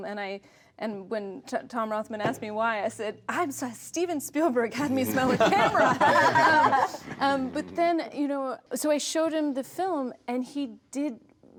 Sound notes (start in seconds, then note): 5.0 laughter